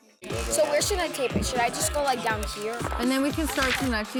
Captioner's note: crew chatting